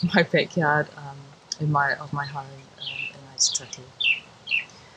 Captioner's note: birds chirping loudly